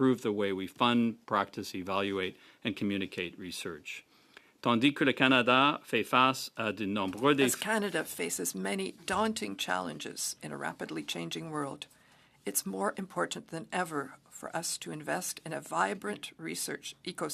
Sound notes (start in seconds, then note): 9.8 speaking French